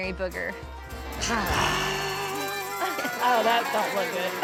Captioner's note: grunting